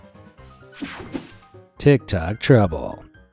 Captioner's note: screen whooshing